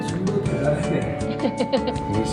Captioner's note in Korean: 민망한 웃음